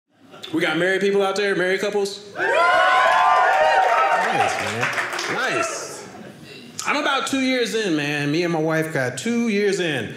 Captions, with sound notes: We got married people out there? Married couples? (audience cheering) Nice. I'm about two years in, man. Me and my wife got two years in.